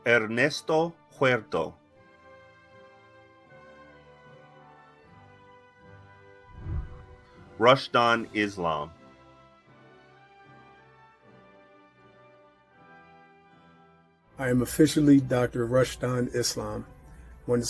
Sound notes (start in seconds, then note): 2.3 celebratory music; 6.4 whooshing; 9.5 celebratory music